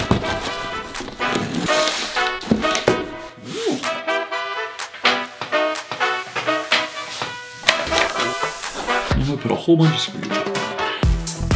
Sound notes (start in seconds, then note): 0.2 lively swing music; 3.7 exclaims